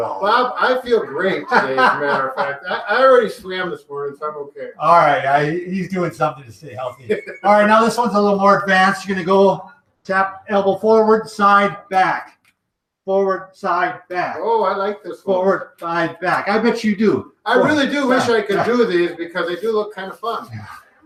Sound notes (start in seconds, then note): 2.5 laughing; 6.7 chuckles